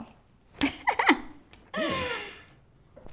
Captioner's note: laughs